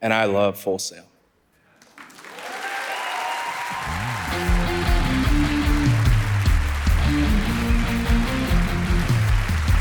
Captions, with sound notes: and I love Full Sail. (audience applauding) (upbeat music)